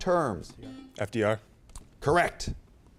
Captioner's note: beep